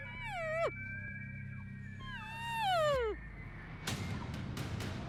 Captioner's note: elk call bugling